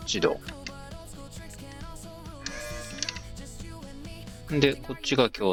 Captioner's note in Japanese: 電源をつなぐ フロートを手で動かす ポンプの音